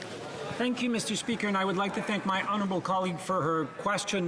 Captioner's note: speaking French